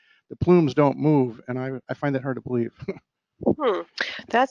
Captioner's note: laugh